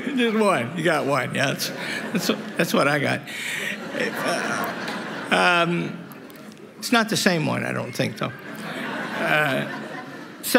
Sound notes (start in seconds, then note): 3.5 laughter